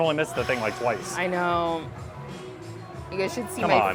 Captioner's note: sighs